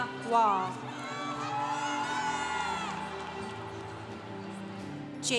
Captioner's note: congregation cheering